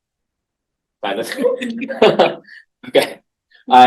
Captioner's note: laughing